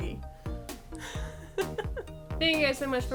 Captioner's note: laughs